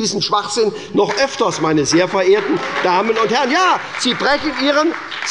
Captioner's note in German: Beifall bei der SPD - Zurufe von der CDU